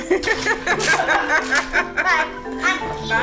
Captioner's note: laughs